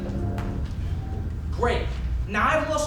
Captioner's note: snap